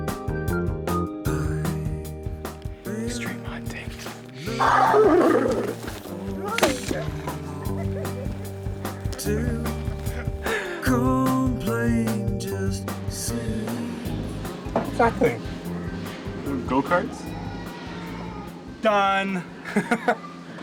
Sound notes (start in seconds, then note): 2.4 whispering; 4.5 imitating animal snorting/braying; 8.1 laughing; 19.4 laughing